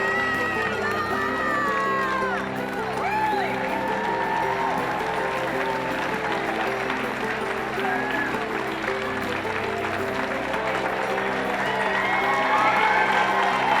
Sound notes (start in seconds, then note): 4.2 cheering